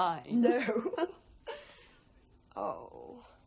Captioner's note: both giggling